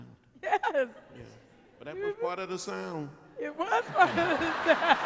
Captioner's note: laughs; laughing; applause